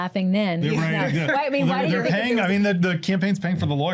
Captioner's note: overlapping chatter